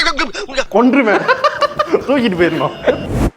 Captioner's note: man laughs